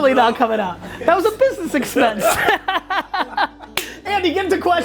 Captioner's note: laugh